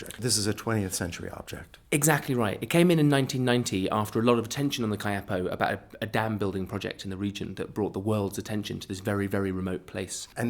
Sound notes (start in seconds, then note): 1.7 voiceover; 10.3 voiceover